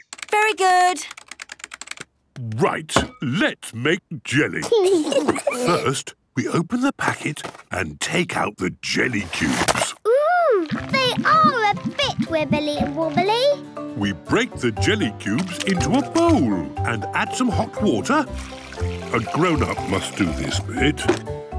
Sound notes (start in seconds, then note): 4.7 giggles